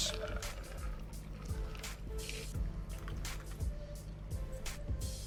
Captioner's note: liquid pours